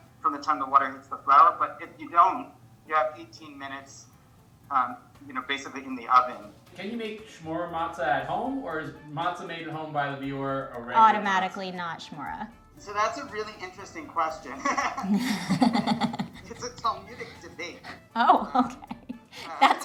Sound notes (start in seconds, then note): 14.4 all laughing; 19.2 laughs